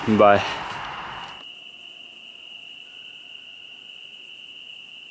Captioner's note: crickets chirping